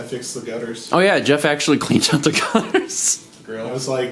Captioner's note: laughs